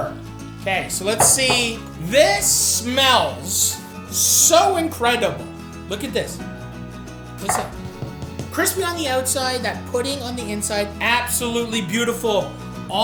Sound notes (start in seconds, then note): 7.5 Yorkshire thuds